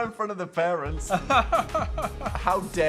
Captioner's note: Phil laughs